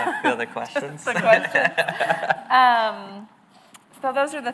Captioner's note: laughs